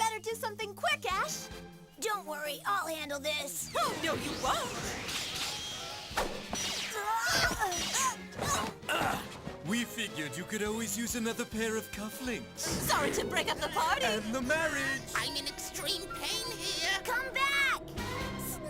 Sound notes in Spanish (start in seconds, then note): 7.6 asustado